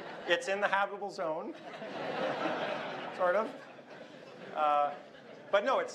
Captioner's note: laughter